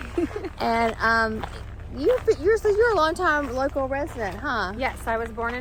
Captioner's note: stammers